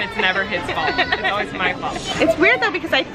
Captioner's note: laughing